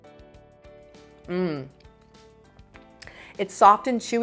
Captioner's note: moans